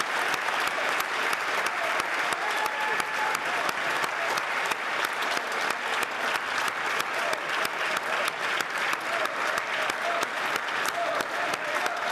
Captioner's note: cheers & Applause